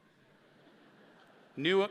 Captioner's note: audience laughs